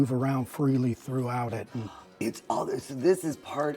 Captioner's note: gasps